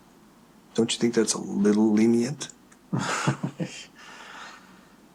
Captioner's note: laughing